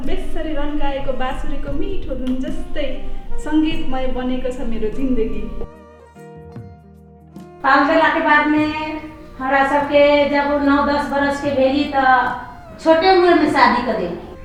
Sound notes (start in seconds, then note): 9.3 in Bajika